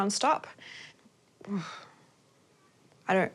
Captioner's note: sighs